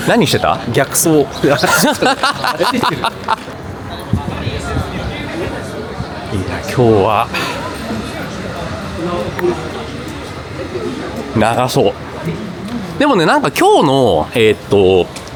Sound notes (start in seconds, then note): 1.3 laughs